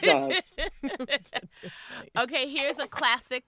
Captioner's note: laughing